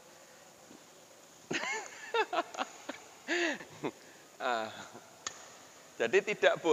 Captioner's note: laughs